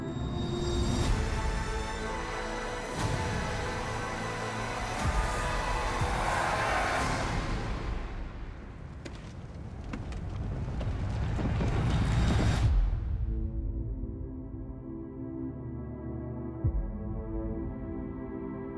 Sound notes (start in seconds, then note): 0.9 music intensifies; 2.9 people clamoring; 5.9 cheering; 6.9 music stops